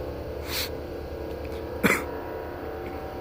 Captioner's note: wheezing cough